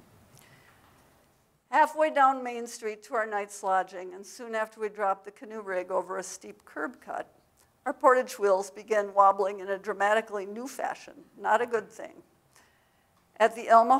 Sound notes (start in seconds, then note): none